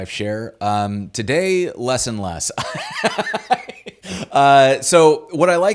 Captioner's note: laughs